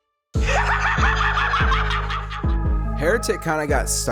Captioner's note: actor cackles deviously